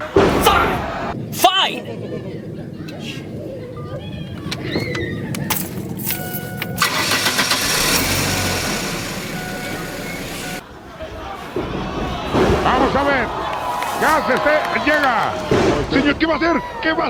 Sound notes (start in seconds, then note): 6.8 car starting; 12.6 speaking in foreign language on TV